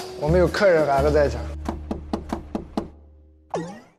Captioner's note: knock, knock, knock